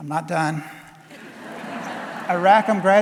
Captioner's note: audience laughing